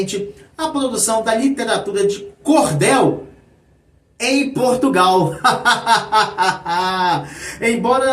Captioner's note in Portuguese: risadas